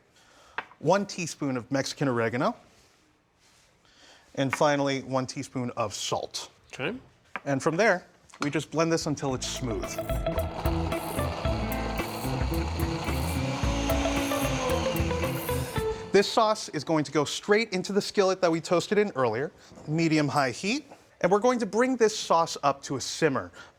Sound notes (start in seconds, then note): 9.4 blender whirring; 14.5 whirring stops